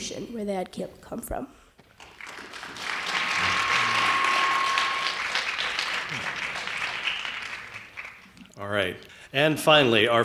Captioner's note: applause